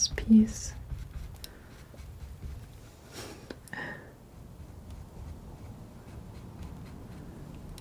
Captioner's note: scratching